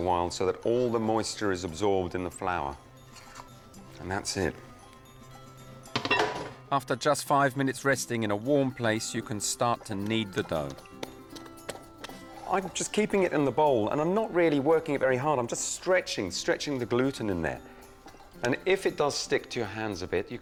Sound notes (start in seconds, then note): 5.9 bowl clatters; 11.0 dough squelches